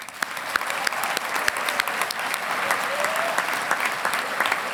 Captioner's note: audience applauding